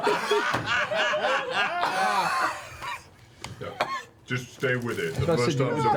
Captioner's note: all laugh; coughs